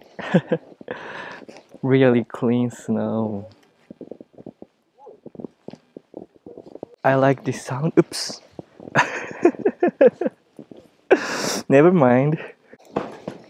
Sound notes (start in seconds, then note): 5.0 snow crunching; 8.8 laughs; 12.9 shoes tapping